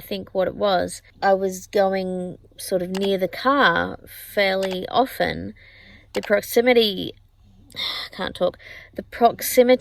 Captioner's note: sighs